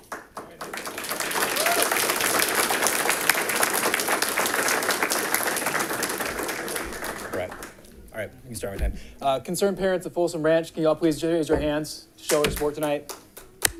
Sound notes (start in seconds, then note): 0.0 audience applauding